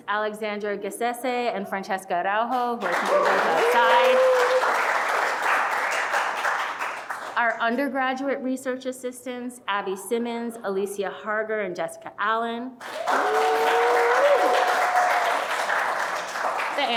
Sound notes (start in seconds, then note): 5.2 audience applauding; 12.8 audience applauding